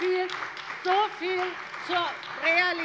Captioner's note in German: Beifall bei der CDU und dem BÜNDNIS 90/DIE GRÜNEN